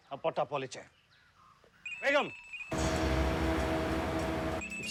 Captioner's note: speaking foreign language; phone ringing; dramatic music